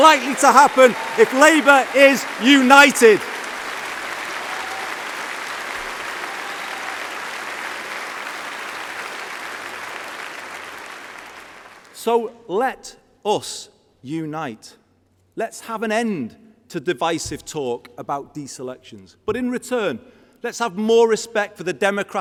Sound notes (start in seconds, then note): 9.6 applause